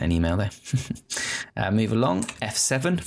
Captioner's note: chuckling